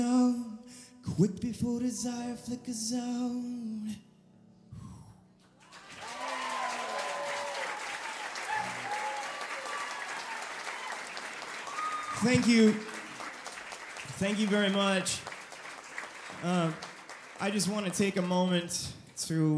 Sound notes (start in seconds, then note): 4.6 audience cheering